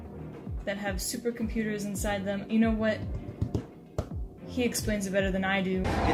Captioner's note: tapping on counter